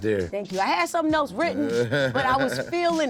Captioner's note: laughs